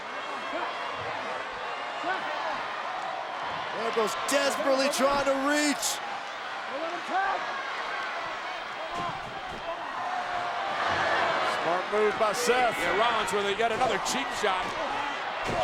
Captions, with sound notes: Ambrose desperately trying to reach. Don't let him tag! (crowd gasps) Smart Move by Seth. Yeah, Rollins with yet another cheap shot.